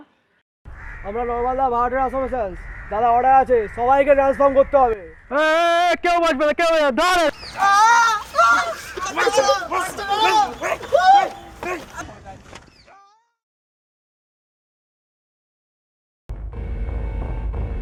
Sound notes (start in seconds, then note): 7.1 shouting